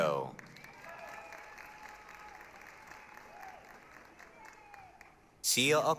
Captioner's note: applause, cheering